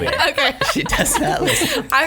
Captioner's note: laughs